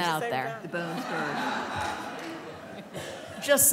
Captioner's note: laughter